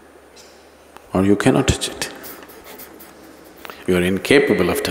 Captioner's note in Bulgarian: Смее се